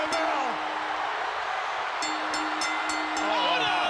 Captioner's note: bell ringing